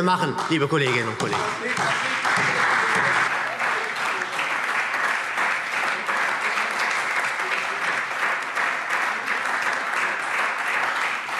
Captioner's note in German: Beifall